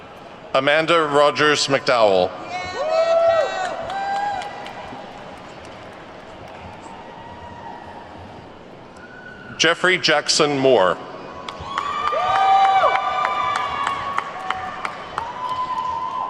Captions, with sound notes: Amanda Rogers McDowell. (attendees whooping and clapping) Jeffery Jackson Moore. (attendees whooping and clapping)